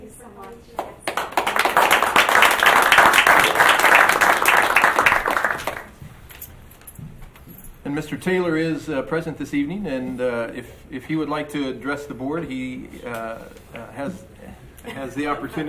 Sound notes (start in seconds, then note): 0.7 group applauds